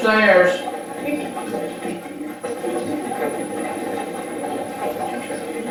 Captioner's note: static playback transmitting